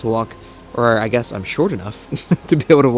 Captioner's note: chuckles